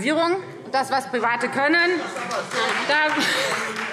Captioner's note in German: Beifall Freie Demokraten - Zurufe DIE LINKE